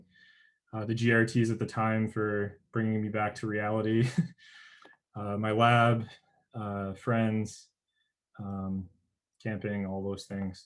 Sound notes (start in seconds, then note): 4.0 chuckles